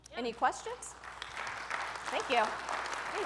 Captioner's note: audience applauding